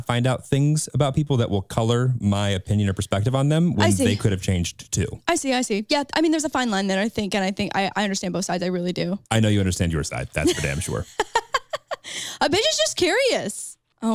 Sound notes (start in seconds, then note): 10.4 laughing